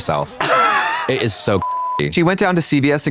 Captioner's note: beep